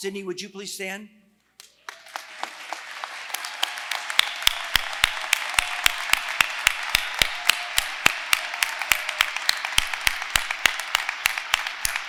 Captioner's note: applause